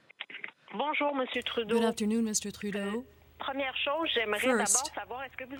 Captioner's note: speaking French